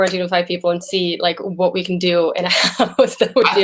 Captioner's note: chuckles